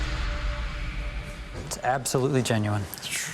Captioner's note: sighs in relief